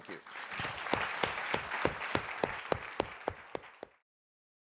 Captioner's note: audience applauding